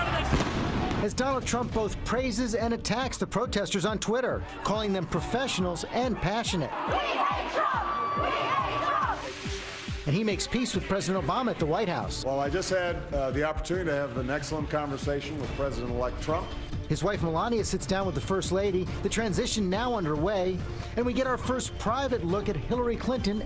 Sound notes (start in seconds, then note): 12.1 chanting "we hate trump"